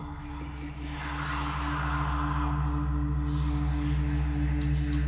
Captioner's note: whispering